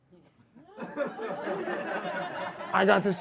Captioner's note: audience laughs